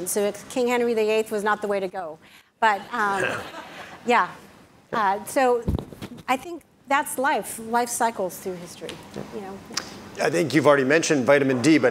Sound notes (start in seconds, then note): 3.2 audience laugh